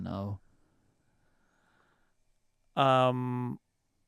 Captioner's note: silence